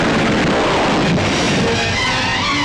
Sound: explosion

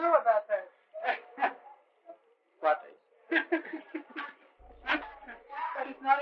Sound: laughter

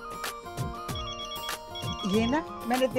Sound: phone ringing

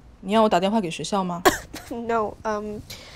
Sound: coughing

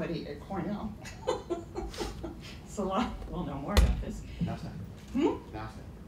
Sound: chuckle

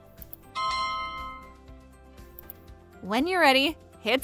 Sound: alarm chiming

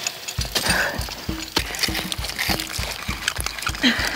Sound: ice scraping

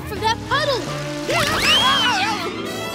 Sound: screaming

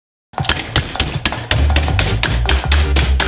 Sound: hammering; playful music

